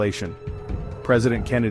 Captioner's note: voiceover